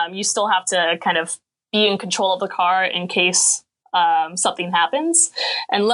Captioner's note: none